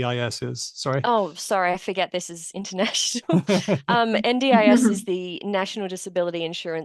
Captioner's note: laughter